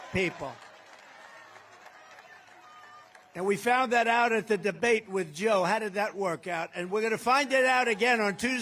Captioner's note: applause